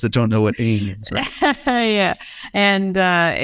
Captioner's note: laughs